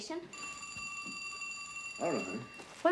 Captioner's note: phone ringing